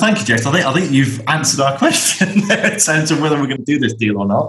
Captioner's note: laughs